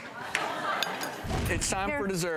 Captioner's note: audience laughing